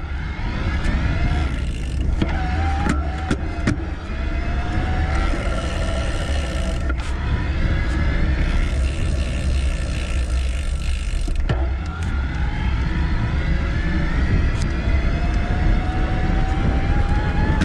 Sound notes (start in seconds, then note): 0.1 bicycle whirring; 5.4 wind whooshing; 11.8 bicycle whirring